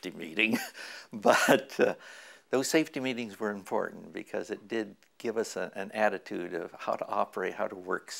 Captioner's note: chuckle